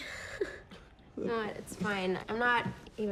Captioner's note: laughs